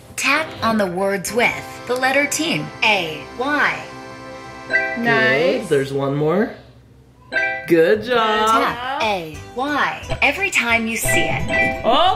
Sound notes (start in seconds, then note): 7.4 phone beeping